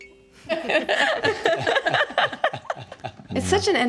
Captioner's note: laughing